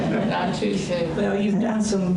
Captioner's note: audience laughter